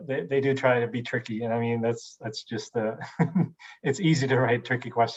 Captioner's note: laughs